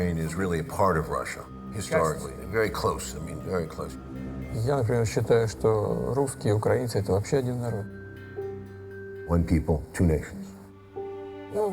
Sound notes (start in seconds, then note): 4.8 speaking foreign language